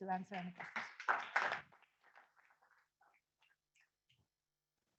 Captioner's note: audience applauding